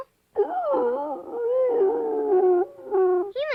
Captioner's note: Arrow howling